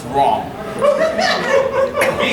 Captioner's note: audience laughing